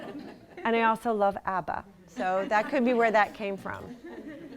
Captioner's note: laughter